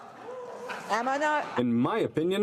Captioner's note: speaking french